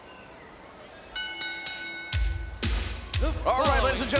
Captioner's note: ring bell clanging